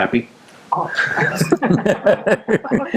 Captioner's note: laughter